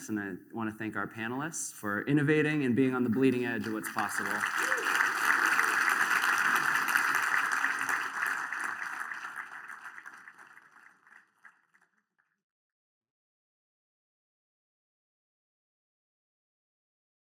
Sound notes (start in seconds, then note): 3.3 applause